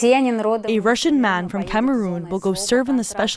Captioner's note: through translator